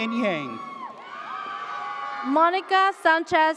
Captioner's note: audience cheers